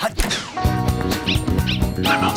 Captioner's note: yipping